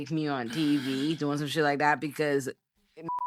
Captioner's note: beep